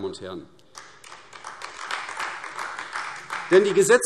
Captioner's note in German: Beifall AfD